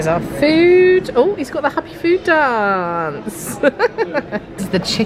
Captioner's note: chuckles